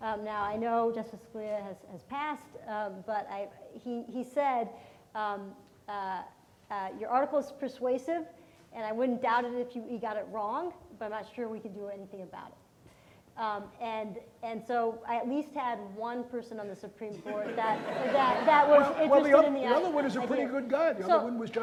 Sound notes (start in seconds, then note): 17.2 audience laughs